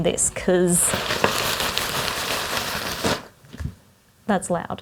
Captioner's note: loud rustling material